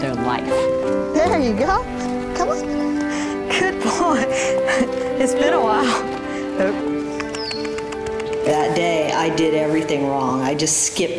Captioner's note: laugh